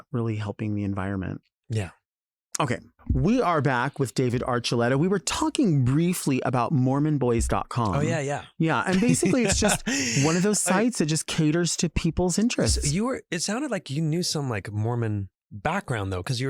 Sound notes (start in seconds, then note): 8.9 chuckles